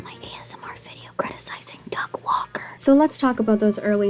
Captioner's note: whispered